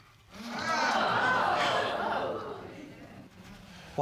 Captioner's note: audience exclaiming